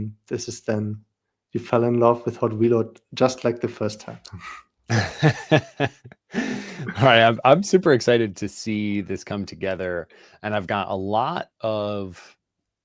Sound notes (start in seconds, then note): 4.9 laughter